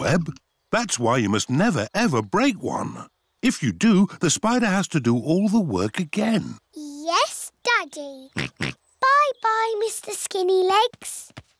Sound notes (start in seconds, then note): 8.3 oinks